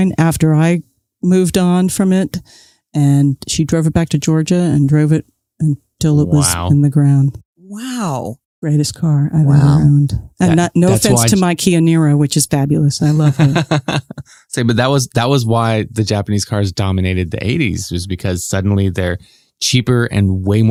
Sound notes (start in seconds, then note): 13.1 laughs